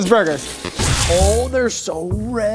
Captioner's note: laser sound